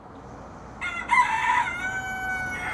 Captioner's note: rooster crows